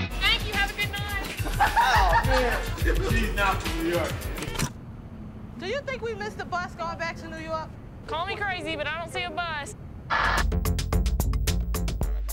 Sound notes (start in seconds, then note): 1.3 laughter; 10.1 techno music